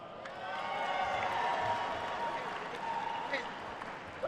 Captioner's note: attendees cheering and applauding